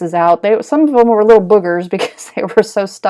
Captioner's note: giggling